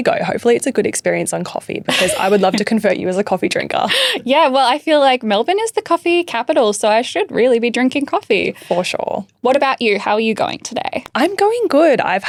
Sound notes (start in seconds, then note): 1.9 chuckling